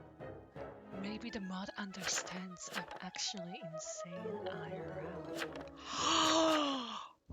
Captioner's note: gasp